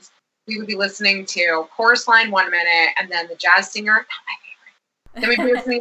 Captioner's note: whispers